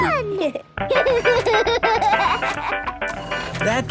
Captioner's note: giggles, snorts; giggling; music fades